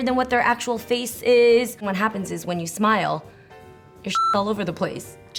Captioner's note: beep